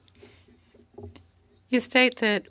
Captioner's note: speaking French